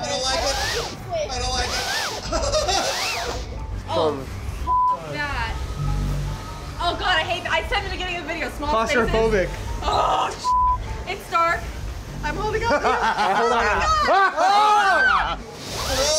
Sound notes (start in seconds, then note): 2.2 laughs; 12.8 guide laughs sinisterly; 13.8 screams